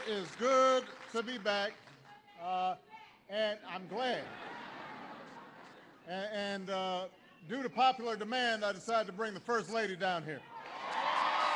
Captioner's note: laughter